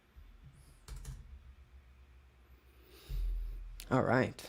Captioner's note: keyboard clicking